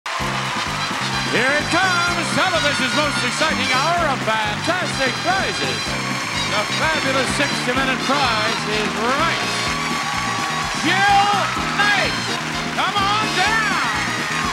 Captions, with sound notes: Here it comes, television's most exciting hour of fantastic prizes, the fabulous 60 minute "Price is Right." (upbeat music) (audience applauds) Jill Mate, come on down.